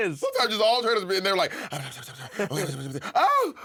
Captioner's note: muttering